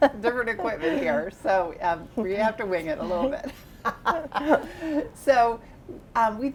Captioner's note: laughs